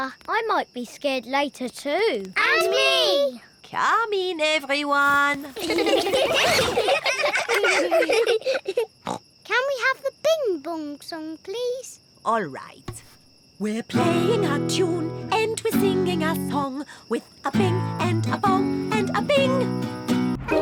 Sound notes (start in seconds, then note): 5.4 all giggling; 8.7 snorts